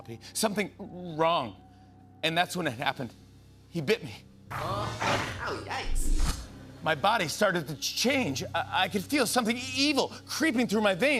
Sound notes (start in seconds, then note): 4.2 dog snarls